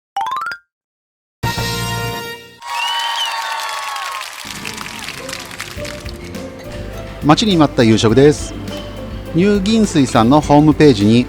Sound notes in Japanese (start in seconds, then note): 2.7 拍手